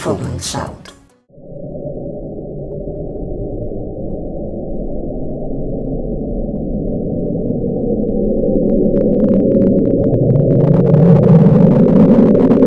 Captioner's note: Playing "The Bloop", the loudest underwater sound to date